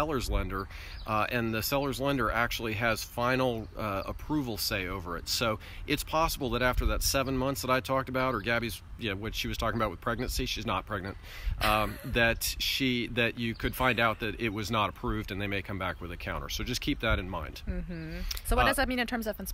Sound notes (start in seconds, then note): 11.6 laugh